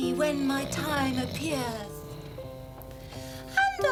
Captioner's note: snoring